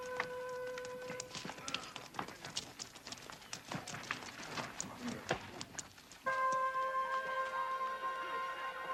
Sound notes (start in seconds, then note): 2.9 men chattering; 6.3 gentle music